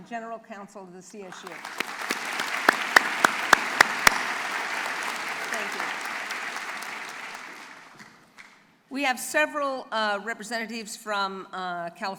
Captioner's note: applause